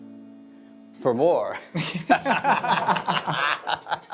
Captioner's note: laughing